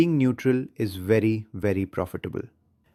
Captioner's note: excited